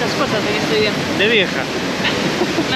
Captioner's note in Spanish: risas